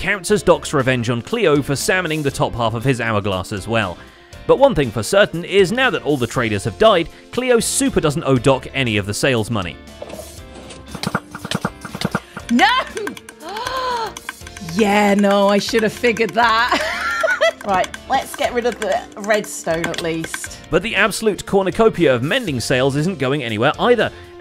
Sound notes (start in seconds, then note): 12.1 bottles breaking; 13.4 gasps; 16.6 laughs